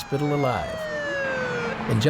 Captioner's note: ambulance siren blaring